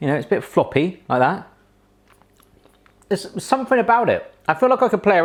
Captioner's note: none